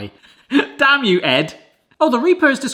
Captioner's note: laughs